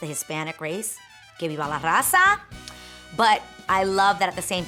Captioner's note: speaking in foreign language